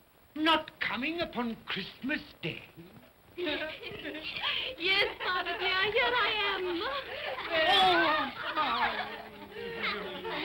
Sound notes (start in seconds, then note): 3.4 children giggle